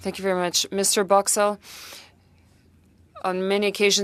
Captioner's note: speaking French